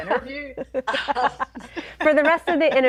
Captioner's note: laughing